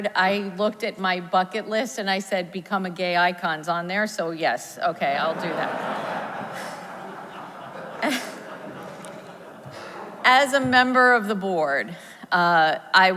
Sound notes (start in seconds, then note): 5.0 audience laughs; 8.1 laughs